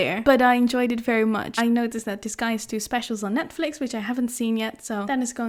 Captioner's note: none